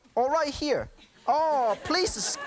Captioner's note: laughter